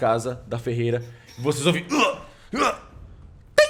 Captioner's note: groan